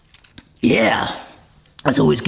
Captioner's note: voice cracking roughly